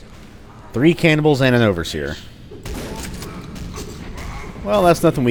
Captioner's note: shotgun blasting and stabbing